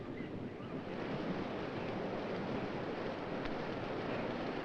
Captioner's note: wind whirring